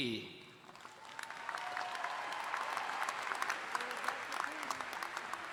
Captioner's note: audience cheers and applauds